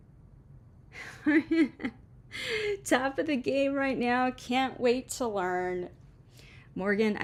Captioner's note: happy laugh